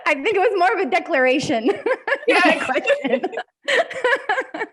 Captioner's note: both laughing